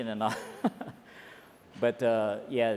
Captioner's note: laughs